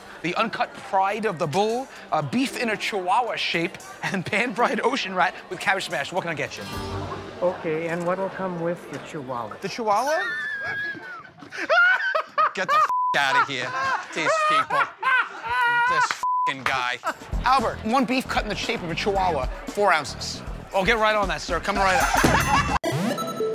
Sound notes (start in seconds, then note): 13.2 laughs; 21.6 ding!